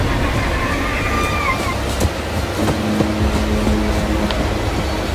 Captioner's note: creature howling